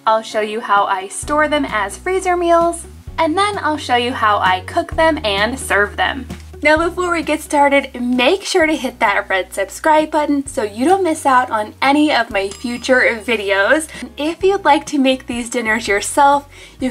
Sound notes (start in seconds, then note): 12.4 bell dings